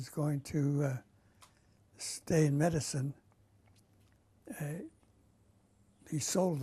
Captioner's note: pauses for 3 seconds